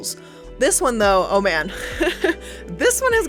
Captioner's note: chuckles